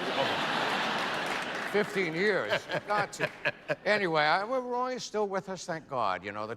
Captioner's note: laughter